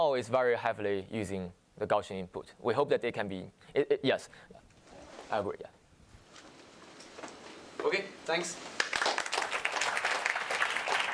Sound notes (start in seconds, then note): 8.7 applause